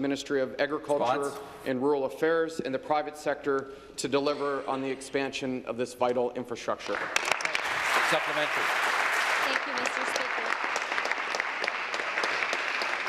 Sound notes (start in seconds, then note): 10.2 applause